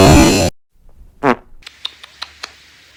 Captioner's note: lips noises; splat